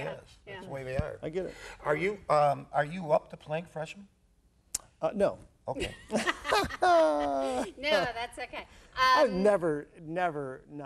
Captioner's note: hahah